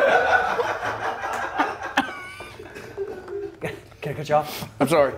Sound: laugh

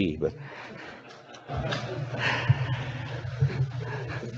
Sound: audience laughing

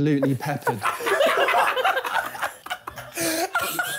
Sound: laughing

